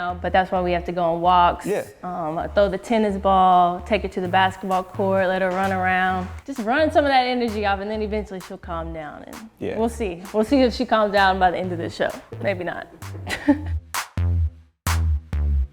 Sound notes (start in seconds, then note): 12.8 laughs